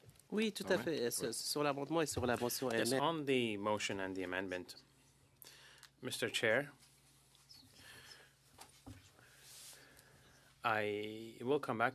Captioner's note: speaking French